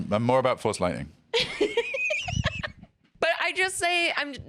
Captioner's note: laughs